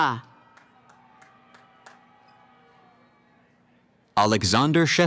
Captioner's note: cheering